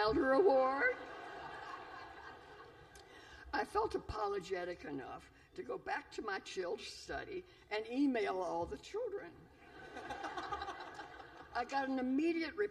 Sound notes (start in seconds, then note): 9.6 laughter